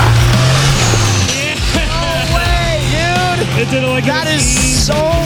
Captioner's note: laughs